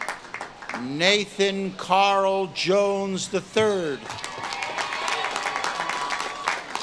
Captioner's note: audience claps and cheers